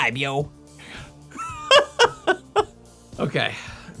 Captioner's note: laughing